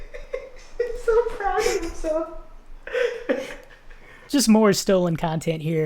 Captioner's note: laughs